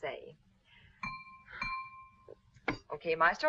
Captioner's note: knife clanging